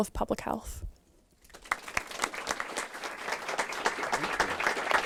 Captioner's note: applause